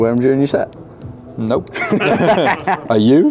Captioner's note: group laughs